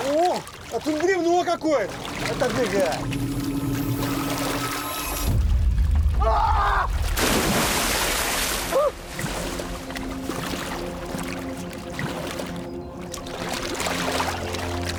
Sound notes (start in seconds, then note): 6.2 screams; 8.4 eerie music